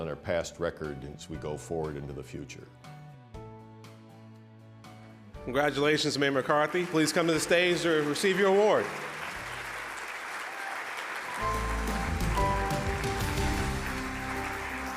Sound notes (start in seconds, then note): 9.4 audience applause